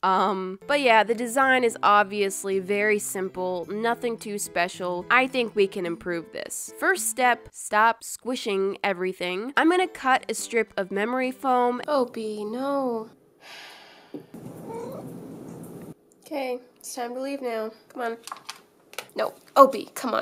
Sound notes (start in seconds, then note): 13.4 sigh; 14.0 chirp